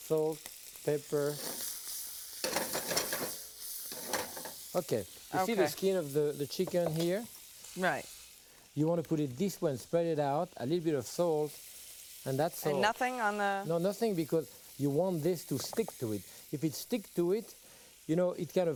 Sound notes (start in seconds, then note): 3.9 pan shuffling